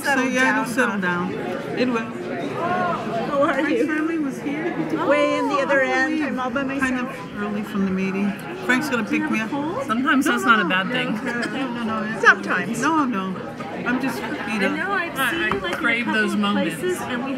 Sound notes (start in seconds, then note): 2.1 overlapping muttering; 7.5 woman's Voice; 10.0 woman's Voice